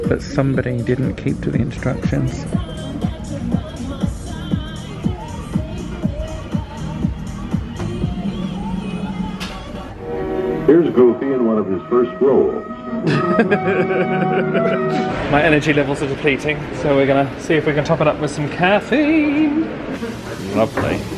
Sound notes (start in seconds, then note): 13.0 laughs